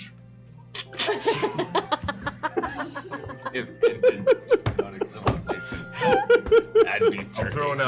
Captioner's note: laughter